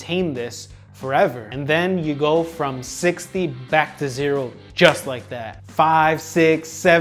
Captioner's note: thumb snap